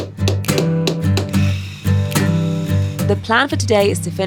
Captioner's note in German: Hammerklopfen; Lebhafte Musik; Sägegeräusch